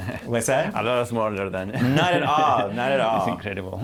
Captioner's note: laughter